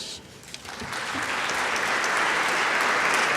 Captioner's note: applause